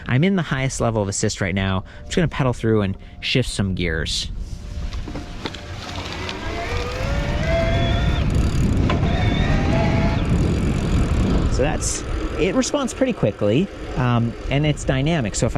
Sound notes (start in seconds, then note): 5.5 motor whirling